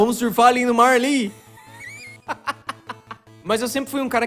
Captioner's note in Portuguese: risada no fundo